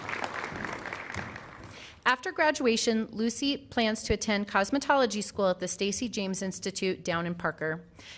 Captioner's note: applause